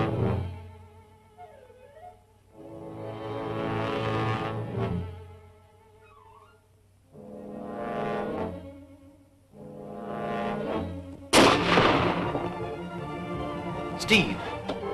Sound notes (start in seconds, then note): 11.3 gunshot; 14.7 tense music